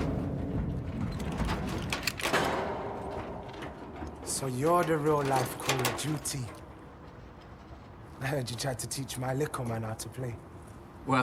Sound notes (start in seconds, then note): 1.6 lock clicking